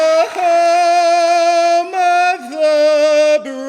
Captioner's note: audience applauding